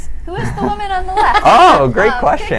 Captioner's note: all laughing